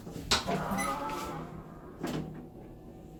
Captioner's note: electrical opening sound